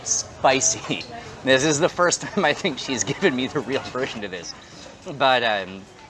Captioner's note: laughing